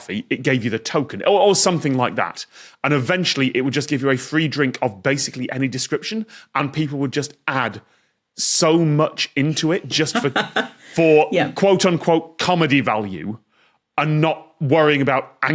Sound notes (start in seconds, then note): 9.5 laughs